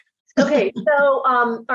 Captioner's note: laughs